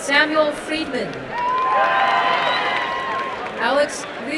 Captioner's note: applause and cheering